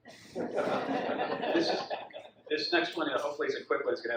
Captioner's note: audience laughs